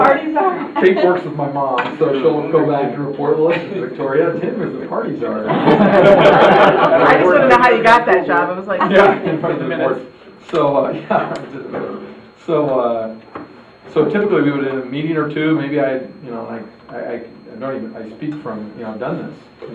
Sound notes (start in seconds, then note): 0.0 laughter; 2.6 static drowns out dialogue